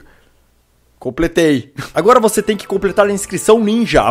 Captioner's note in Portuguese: risos